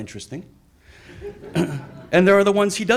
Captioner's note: audience laughs